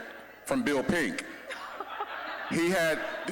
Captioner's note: scattered laughing